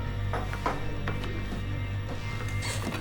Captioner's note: chair creaks